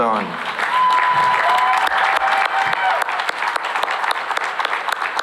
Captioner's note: cheering and applause